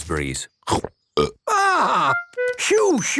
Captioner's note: burps